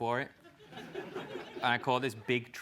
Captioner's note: laugh